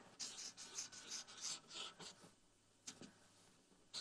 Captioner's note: marker scribbling